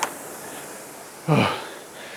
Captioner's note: exhales